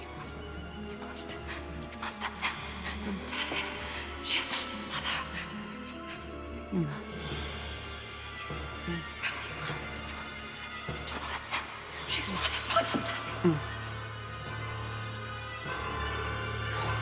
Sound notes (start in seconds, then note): 6.6 gasps; 9.2 ominous string music